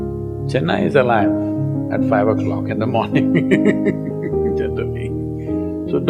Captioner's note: laughs